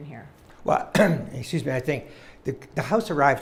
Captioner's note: coughing